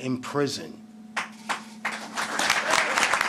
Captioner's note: applause